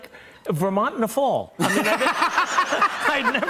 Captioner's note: laughter and applause